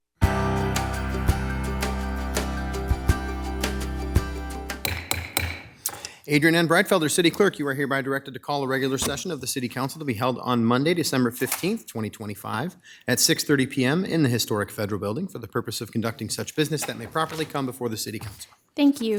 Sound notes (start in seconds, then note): 0.2 upbeat music; 4.8 gavel striking